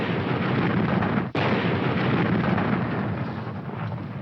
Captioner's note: canons firing